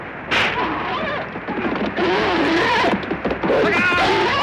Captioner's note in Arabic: صهيل الحصان